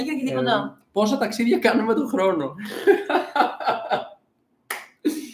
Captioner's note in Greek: γέλια